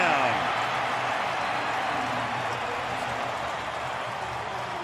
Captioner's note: cheering